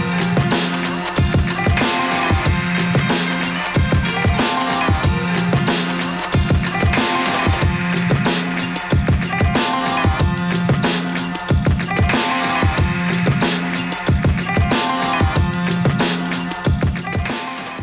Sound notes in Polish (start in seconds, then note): 3.2 Aplauz